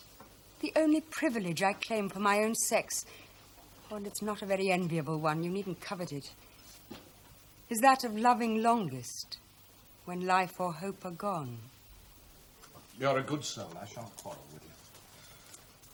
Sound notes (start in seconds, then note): none